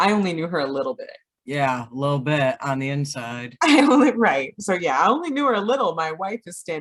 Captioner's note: laughter